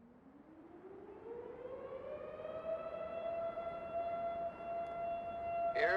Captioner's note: faint siren humming